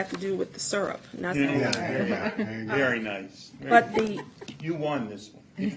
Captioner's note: laughter